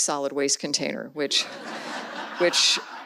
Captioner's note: audience laughs